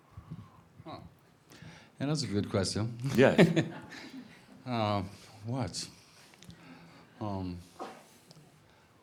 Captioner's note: he chuckles